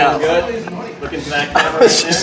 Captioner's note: giggling